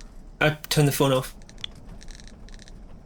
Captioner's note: click